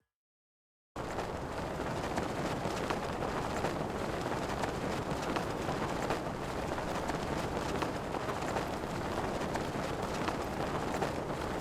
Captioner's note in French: bruit de vent